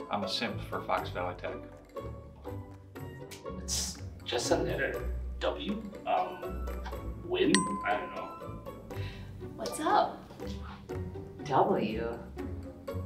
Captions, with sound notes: I'm a simp for Fox Valley Tech. (playful music continues) - It's just a letter W. Win? I don't know. (bell dings) - What's up? - W?